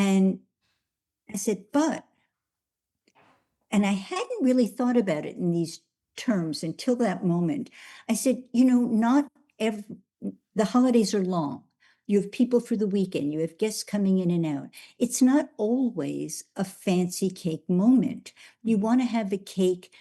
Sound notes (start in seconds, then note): none